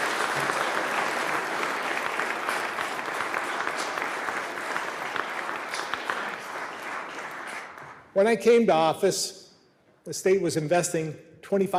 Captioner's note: applause